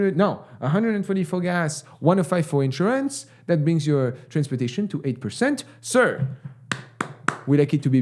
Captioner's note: claps